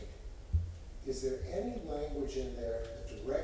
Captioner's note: off microphone